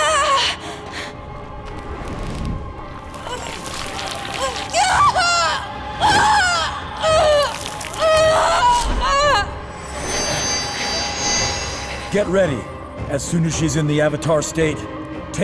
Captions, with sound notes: [moaning] Get ready. As soon as she’s in the Avatar state take her out.